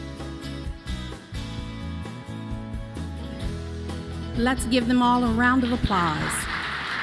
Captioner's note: applause